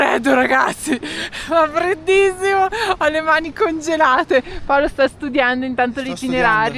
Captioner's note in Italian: risate